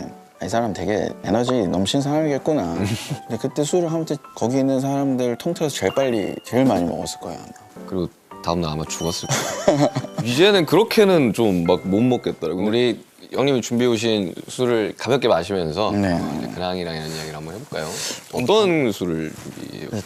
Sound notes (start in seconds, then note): 9.3 haha; 17.7 rummage